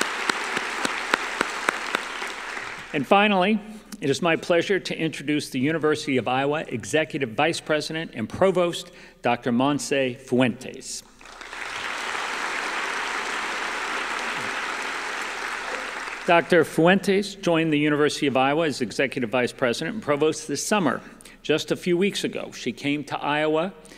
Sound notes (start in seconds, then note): 0.0 applause; 13.8 applause